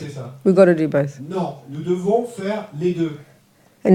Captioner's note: French